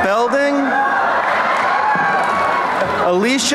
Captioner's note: applause and cheering